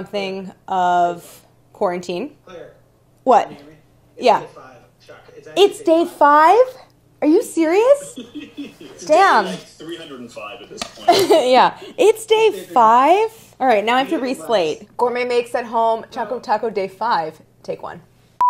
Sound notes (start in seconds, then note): 7.9 softly laughing; 10.8 softly chuckles; 18.2 softly beeps